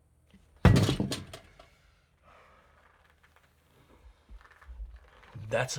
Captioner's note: breathes deeply; pounds table